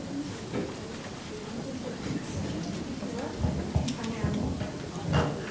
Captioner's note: crowd talking indistinctly